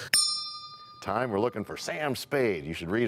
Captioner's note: bell rings, time expires